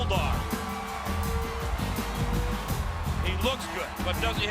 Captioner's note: audience cheers